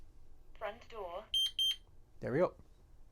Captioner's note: beep sound